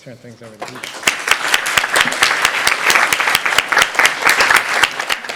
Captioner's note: applause